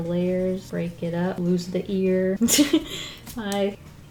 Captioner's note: laughs